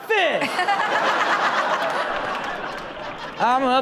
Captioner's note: Chanel and audience laughing